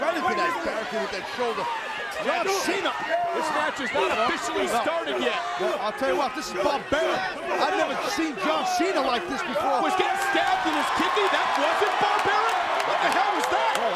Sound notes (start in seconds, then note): 9.6 John Cena exclaiming; 9.6 crowd cheering